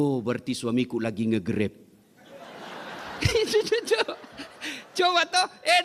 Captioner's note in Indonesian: tertawa